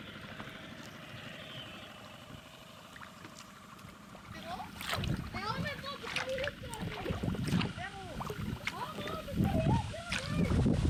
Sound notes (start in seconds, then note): 5.7 loud shouting